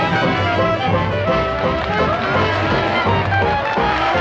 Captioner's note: crowd cheering